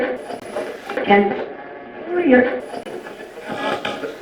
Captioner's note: radio scratching; radio voices